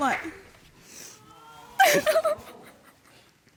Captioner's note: audience exclaiming